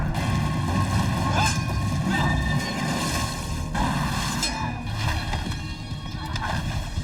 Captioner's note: grunting; metal clanking